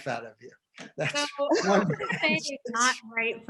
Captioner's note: all laughing